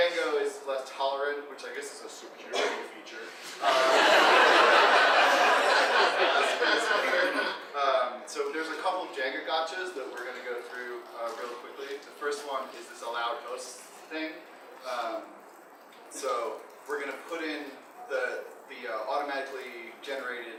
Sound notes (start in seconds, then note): 3.5 audience laughing